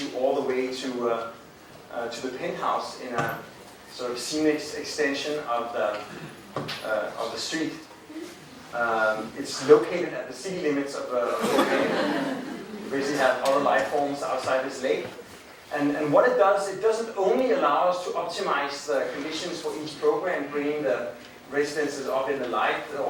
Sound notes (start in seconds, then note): 11.2 crowd laughing